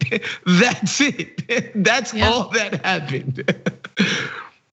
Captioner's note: laugh